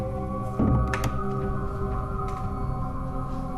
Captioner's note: ominous music continues; door locks